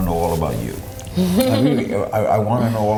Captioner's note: laughs